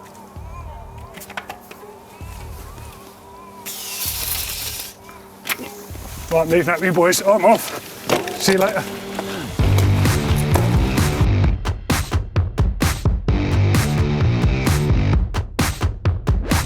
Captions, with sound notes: (air hissing) All right. Leave that be, boys. I'm off. See you later. (upbeat rock music)